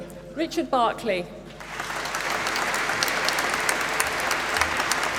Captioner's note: applause